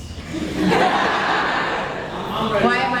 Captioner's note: laughs